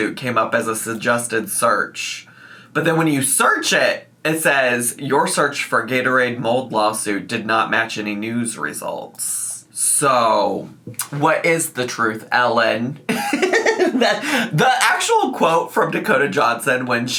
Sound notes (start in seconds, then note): 13.1 laughs